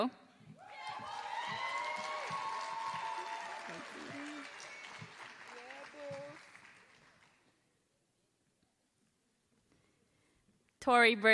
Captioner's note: applause